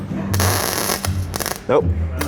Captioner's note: weld zapping